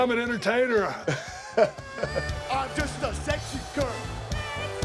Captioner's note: laugh